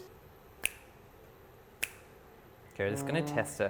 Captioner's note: fingers snap